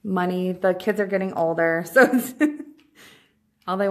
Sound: chuckles

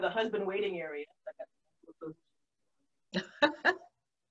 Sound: laughs

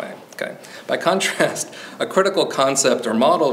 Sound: chuckles

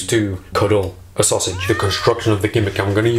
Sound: screams

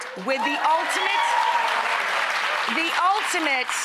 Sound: audience applauding

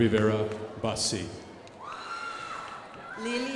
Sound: crowd applauding

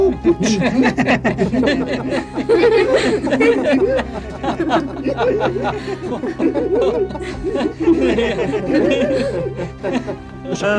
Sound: laughs

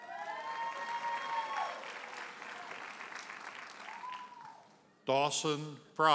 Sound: audience cheers and applauds

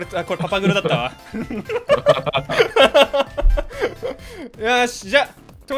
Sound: laughing

